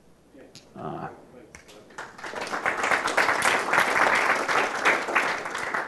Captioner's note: applause